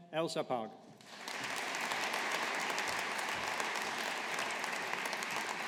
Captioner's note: audience applauding